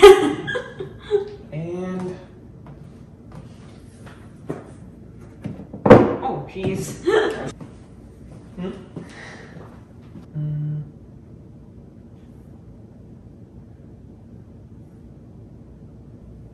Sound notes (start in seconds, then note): 0.0 woman laughing; 7.0 woman chuckling